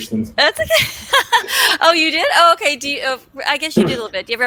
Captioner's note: laughs